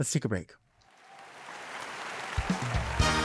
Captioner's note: audience clapping; upbeat music